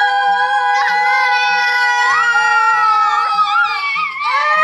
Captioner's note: kids screaming